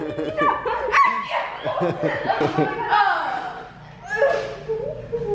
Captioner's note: kids chattering and laughing